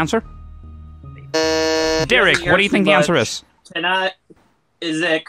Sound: buzzes

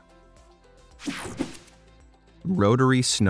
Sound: air whooshing

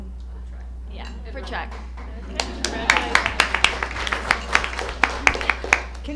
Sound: applause

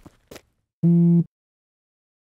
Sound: phone buzzes

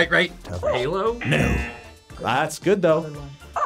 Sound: buzzer barks; buzzer

